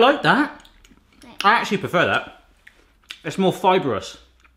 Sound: mouth smacking

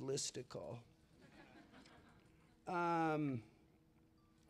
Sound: laughter

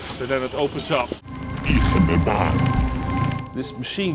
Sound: speaking Sangheili

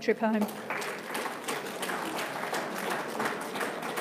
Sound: audience claps

